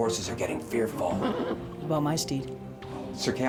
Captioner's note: horse whinnies